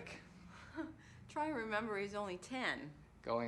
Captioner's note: laughs